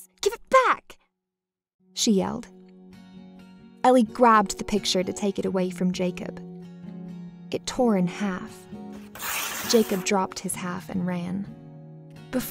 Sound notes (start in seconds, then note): 9.0 paper tears